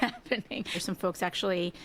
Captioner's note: laughter